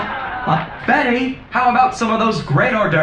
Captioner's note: laughing with track